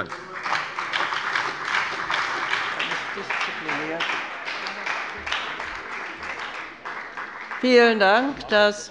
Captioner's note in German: Beifall bei der FDP und der SPD